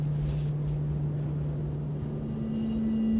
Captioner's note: wind blows